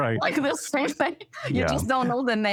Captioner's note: laughter